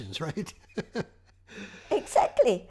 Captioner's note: laughing